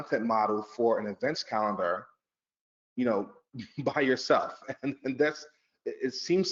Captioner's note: chuckles